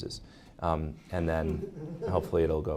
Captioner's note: audience laughing